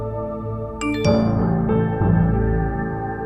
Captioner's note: phone beeps